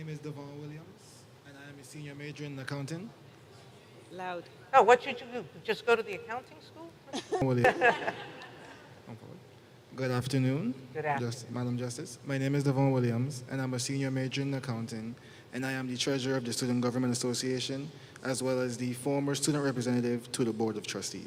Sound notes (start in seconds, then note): 3.2 Chatter between Sotomayor and Chief of Security